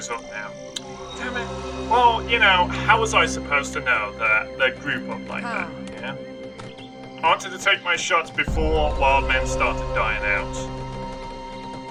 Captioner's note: tuts